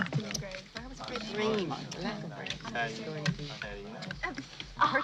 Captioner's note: Perdrys chattering